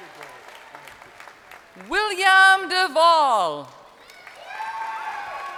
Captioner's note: crowd applauding